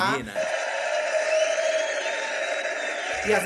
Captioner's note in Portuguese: aplausos e gritos